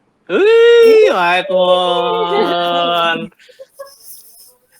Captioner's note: cheering